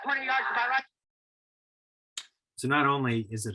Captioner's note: mechanical click